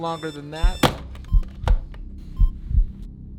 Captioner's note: alarm ringing; brooding music